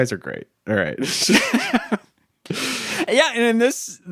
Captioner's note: chuckling